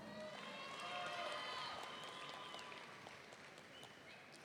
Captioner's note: audience cheering